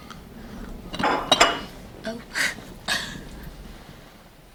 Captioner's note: plate clatter